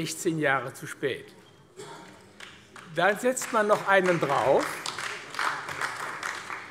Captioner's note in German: Beifall AfD